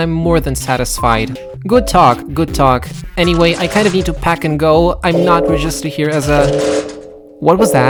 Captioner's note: alarm blaring